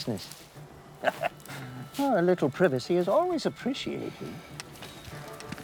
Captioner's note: laughs